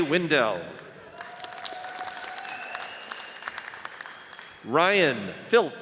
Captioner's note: audience cheers and applauds